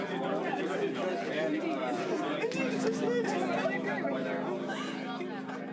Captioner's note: excited chatter